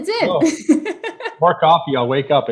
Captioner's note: laughing